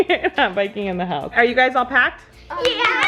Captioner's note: laughs